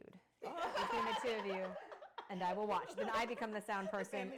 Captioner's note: laughing